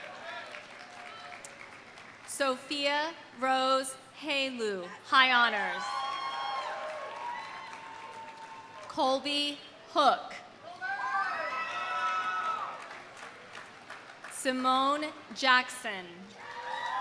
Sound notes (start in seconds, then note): 0.0 audience applauding; 5.6 audience cheering; 5.9 audience applauding; 11.4 audience applauding; 12.6 audience cheering; 16.4 audience applauding; 16.4 audience cheering